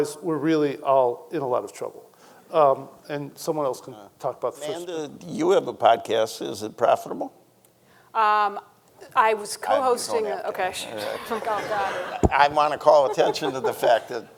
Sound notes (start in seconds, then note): 10.8 laughs